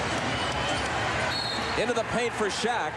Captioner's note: whistle blows